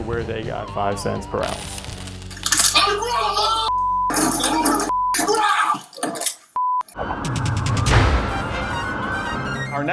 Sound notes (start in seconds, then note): 2.9 loud crashing; 6.9 dramatic music